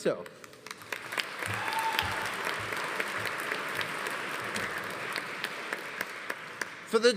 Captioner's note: audience applauding; audience cheering